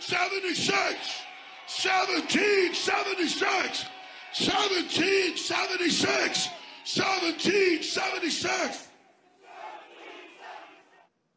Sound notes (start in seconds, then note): 0.0 cheers